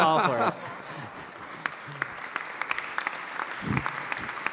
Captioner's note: laughter and applause